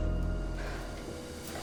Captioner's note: sighs